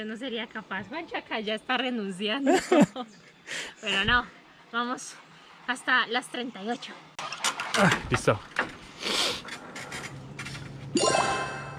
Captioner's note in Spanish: resoplido